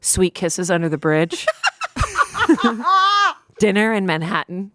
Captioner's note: laughing